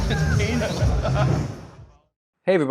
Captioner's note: laughter